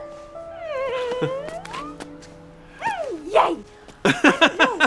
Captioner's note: squals